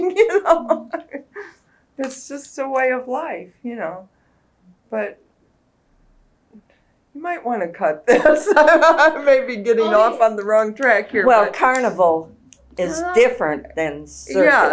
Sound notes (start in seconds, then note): 2.4 laughs